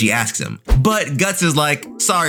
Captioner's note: air whooshing